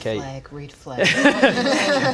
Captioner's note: laughs